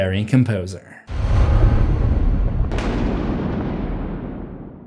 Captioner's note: thunder